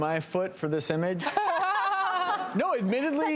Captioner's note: laughter